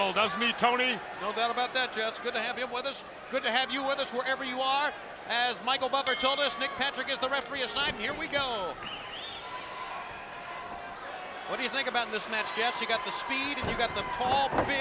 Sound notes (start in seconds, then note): 9.4 spectators cheering